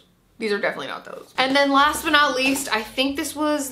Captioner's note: box shuffling